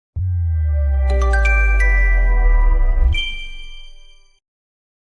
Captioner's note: chime